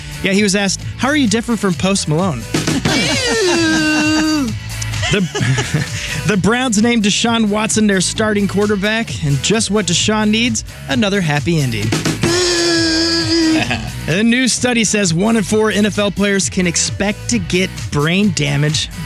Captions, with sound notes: Yeah, he was asked, how are you different from Post Malone? [LAUGHTER] Eww. The Browns named Deshaun Watson their starting quarterback. And just what Deshaun needs, another happy ending. [BUZZING] A new study says one in four NFL players can expect to get brain damage.